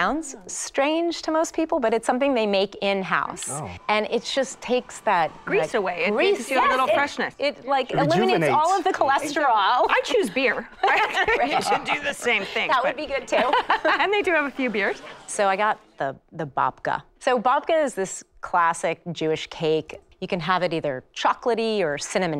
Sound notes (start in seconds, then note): 10.6 light laughter